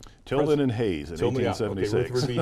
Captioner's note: laughs